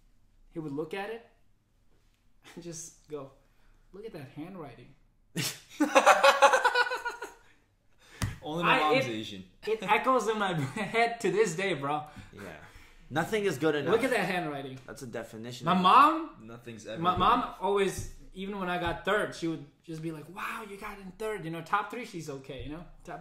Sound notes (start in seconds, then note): 5.4 laughs